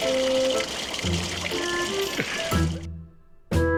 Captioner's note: slurping